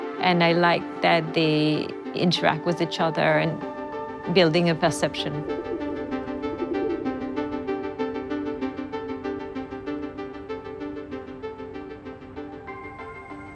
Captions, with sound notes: and I like that they interact with each other in building a perception. (bird cooing) (bright music continues)